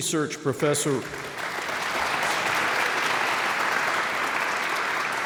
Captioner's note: audience applauds